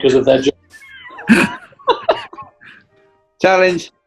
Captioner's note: giggling